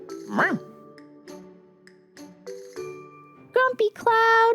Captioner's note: bark